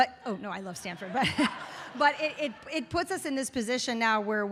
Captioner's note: audience laughs